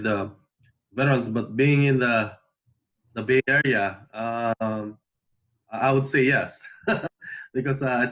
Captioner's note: laughs